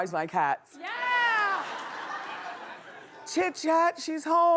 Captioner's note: laughing